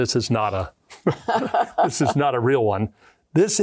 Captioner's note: laughing